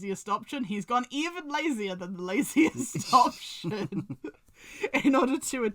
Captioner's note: laughs